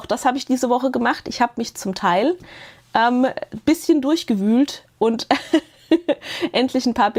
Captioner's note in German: gelächter